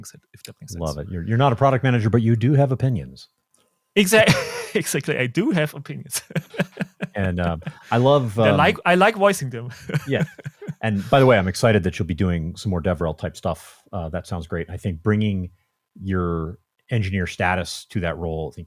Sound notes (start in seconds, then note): 4.1 laughs; 9.7 chuckles